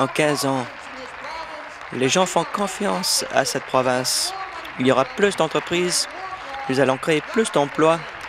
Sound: applause

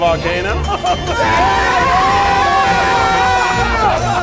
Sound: guests cheering

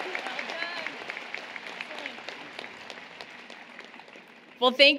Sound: applause, Cheering

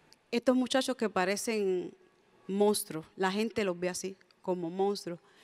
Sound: speaks in Spanish

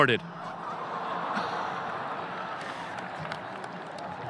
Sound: audience laughing

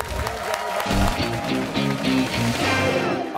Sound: cheers and applause

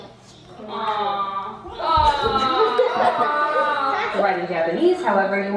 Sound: kids laugh

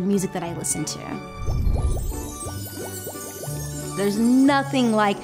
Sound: lively music; bubbles bubbling

